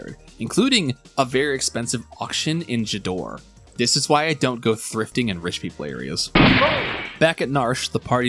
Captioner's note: gunshot